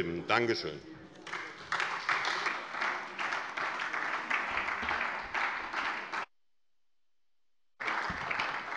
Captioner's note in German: Beifall SPD